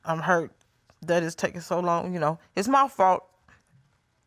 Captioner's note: none